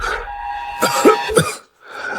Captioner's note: cough, cough